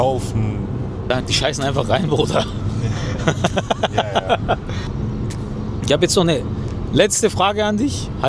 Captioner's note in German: gelächter